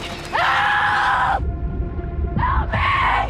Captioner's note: Blake screaming